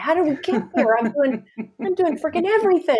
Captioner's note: laughs